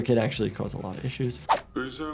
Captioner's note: screenshot whooshes; man speaking in foreign language